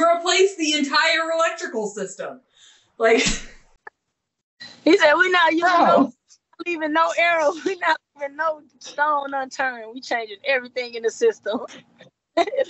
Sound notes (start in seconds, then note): 4.8 laughing; 12.4 laughing